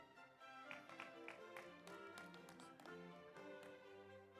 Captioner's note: audience applauds